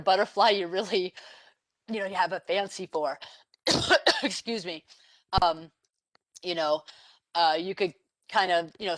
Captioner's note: cough